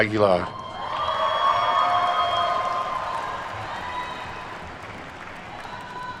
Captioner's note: attendees cheer and clap